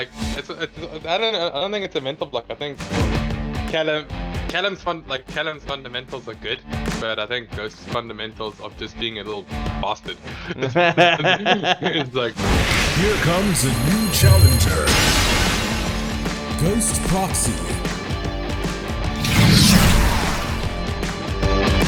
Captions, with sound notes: I don't think it's a mental block. I think Callum's fundamentals are good, but I think Ghost's fundamentals of just being a little bastard. (laughing) - Here comes a new challenger, Ghost proxy. (upbeat music)